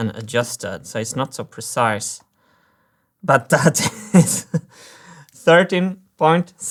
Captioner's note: laughs